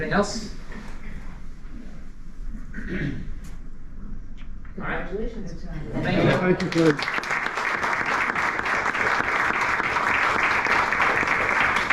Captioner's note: applause